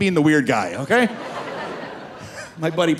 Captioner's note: audience laughing